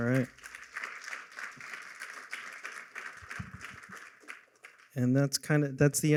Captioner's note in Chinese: 掌声